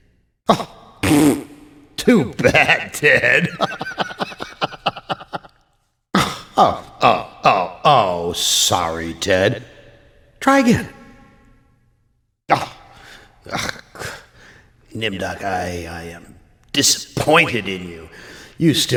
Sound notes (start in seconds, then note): 1.0 pfffft!; 4.3 laughs